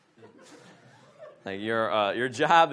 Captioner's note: audience laughs